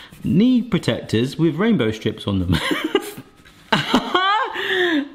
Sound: laughs

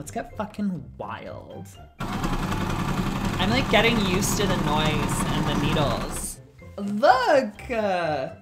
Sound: sewing machine noise

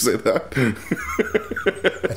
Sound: laughter; chuckles

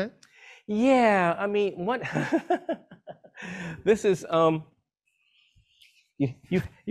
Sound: laughs

